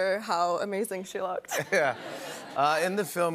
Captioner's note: laughter